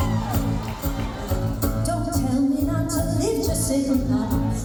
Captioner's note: cheers